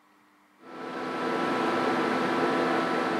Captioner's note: swirling whirring